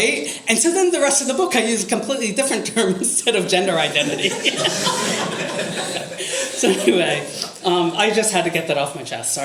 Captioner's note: audience laughter